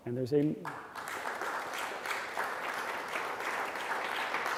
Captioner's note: clapping